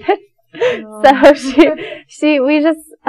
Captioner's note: both chuckle